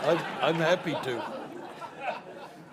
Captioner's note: laughter